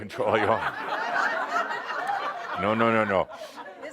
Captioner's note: laughter